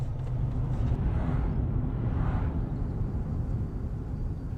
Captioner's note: car whirs softly